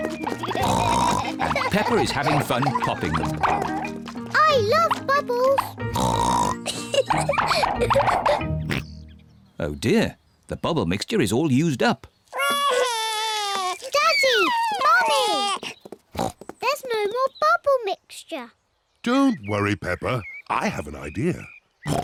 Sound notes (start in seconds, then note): 0.4 oinks; 5.5 oinks and giggles; 8.6 oinks; 12.4 wails; 16.1 oinks; 21.8 oinks